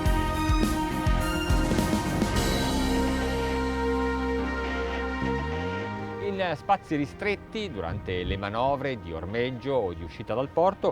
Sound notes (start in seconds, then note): 6.2 speaks in foreign language